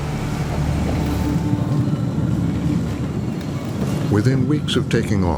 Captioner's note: thunder rumbling